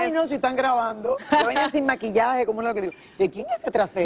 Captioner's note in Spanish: risas